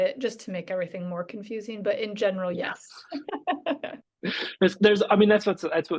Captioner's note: laughs